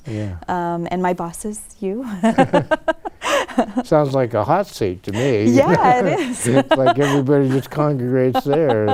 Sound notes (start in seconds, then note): 2.2 laughter; 5.1 laughs